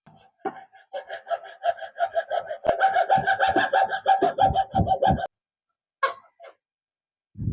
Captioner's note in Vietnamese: Tiếng cười